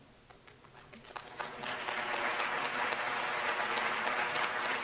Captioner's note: applause